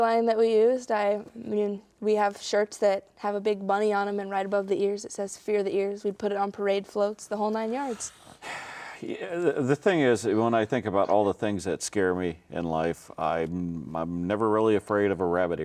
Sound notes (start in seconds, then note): 7.8 sighs